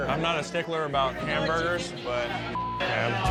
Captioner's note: beep